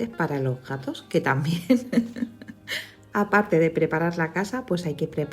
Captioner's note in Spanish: risas